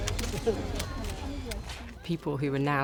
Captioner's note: cameras clicking